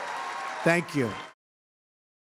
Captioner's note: applause